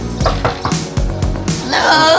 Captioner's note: knocking